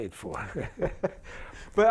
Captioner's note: laughter